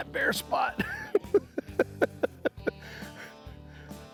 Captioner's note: chuckling